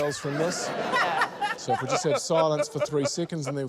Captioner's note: laughter